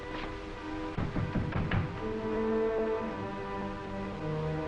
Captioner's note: knocking